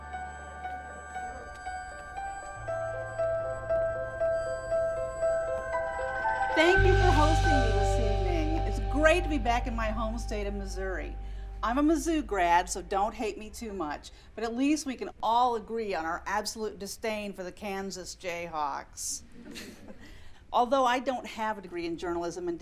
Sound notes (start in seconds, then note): 0.2 pleasant piano over vag uely uneasy electronic music; 19.4 scattered laughter